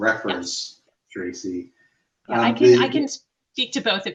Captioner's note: faintly speaking